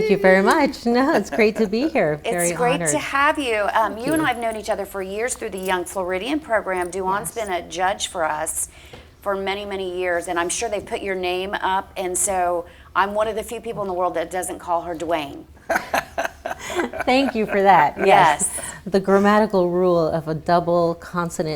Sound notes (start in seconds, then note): 15.6 laughs